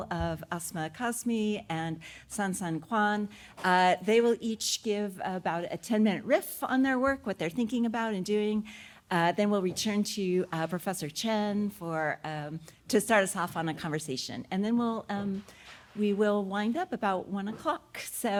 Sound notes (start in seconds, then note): none